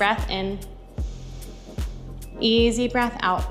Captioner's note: inhaling